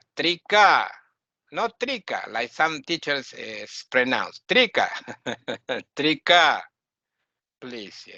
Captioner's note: laughing